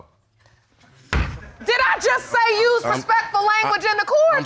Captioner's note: gavel bangs